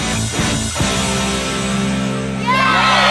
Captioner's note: cheering